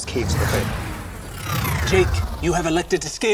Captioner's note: warp noise